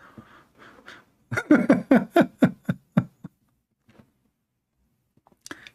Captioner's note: Ketawa